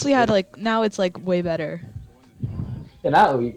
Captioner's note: breath